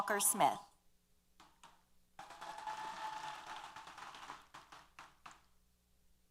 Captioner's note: applause & Cheers